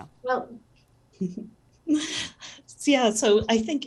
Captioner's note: chuckles